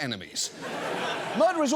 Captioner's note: audience laughs